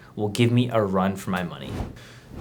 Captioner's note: air whooshing